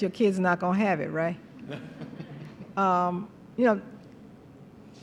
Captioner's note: laughter